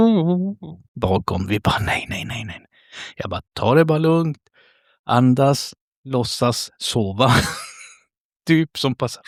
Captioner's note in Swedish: skratt